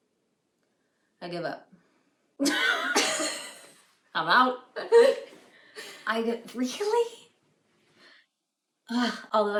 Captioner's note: both laugh